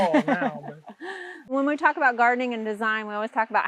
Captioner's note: laughs